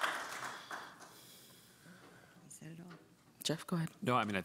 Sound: applause

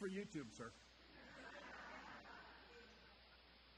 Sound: audience chuckles

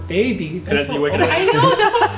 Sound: talking and laughing

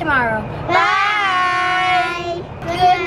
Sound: in Unison

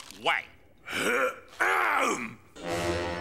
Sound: clearing throat

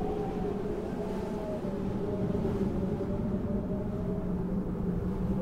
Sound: wind blowing

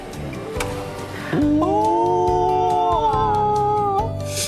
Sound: exclaiming

